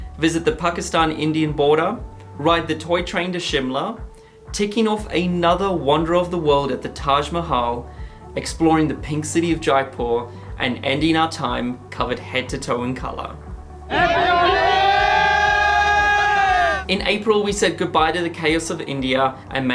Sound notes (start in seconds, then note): 14.0 yelling